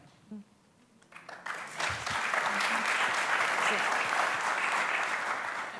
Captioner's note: applause